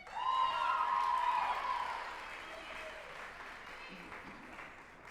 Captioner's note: group applauding and cheering